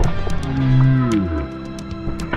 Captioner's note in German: Slomo Geräusch